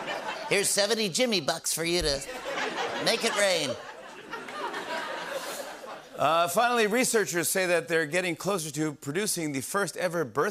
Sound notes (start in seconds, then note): 3.7 laughter; 6.0 normal voice